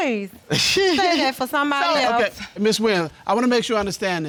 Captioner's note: laughs